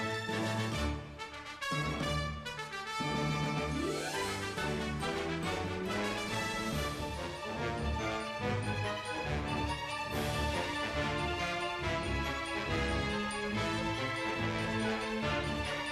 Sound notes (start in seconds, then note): none